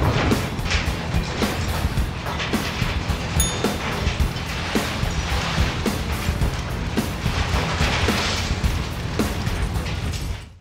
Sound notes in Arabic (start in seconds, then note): 0.2 سقوط حطام; 3.4 نغمة الجرس الصحيحة